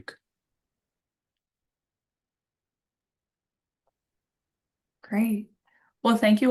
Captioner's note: silence